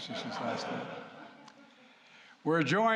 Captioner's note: laughter